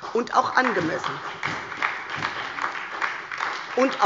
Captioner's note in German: Beifall bei der SPD